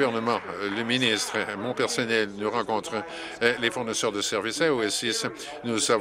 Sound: some Applause

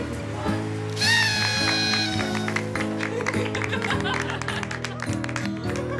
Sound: party horn, laughter, applause

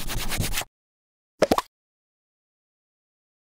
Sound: pop sound

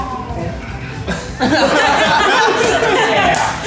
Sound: laughs

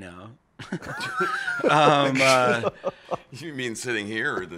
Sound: laughs

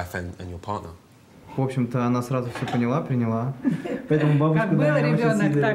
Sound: speaking in foreign language

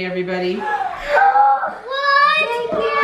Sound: children gasp

